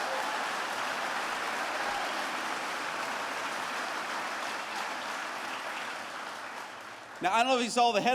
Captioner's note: applause